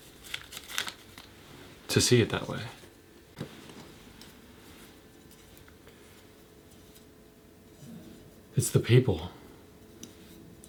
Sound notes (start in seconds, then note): 0.0 paper rustles; 4.4 soft sliding